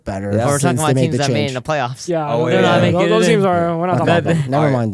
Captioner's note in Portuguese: risos